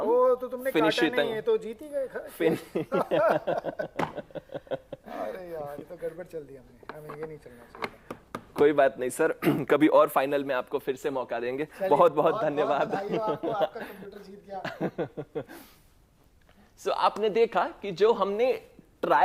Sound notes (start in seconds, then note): 2.4 laughter; 9.7 clears throat; 14.6 laughter